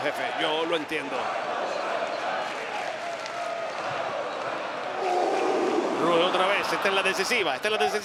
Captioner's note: applause